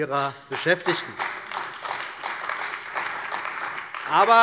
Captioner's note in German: Beifall bei der CDU und dem BÜNDNIS 90/DIE GRÜNEN